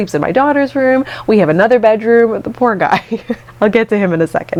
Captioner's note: laughing